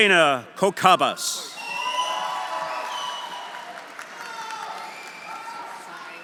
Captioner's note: audience cheering; audience applauding